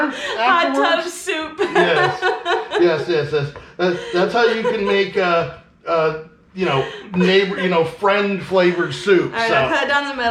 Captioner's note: laughing